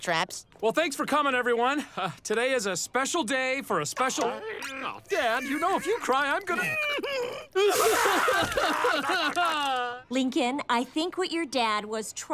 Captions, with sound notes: Well, thanks for coming, everyone. Today is a special day for a special- [crying] Dad, you know if you cry, I'm gonna- [sobbing] Lincoln, I think what your dad was trying